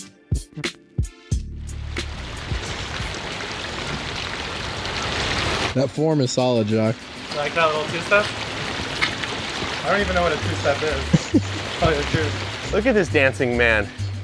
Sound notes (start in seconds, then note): 1.8 water running; 11.0 cameraman laughs